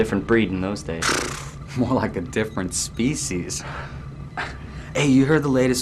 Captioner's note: laughing